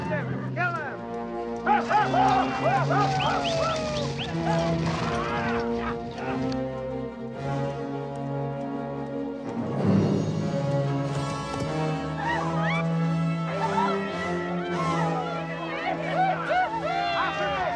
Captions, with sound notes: Find him, kill him! (men yelling) (slow, tense orchestral music) (women screaming)